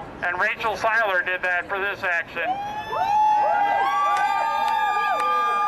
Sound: crowd cheers

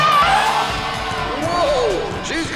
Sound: elephant horn

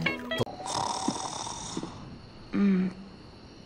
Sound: snoring

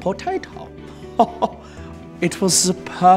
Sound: chuckle

